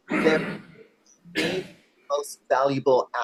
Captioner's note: coughing drowns out speaker